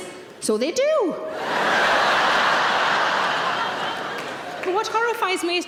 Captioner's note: audience laughing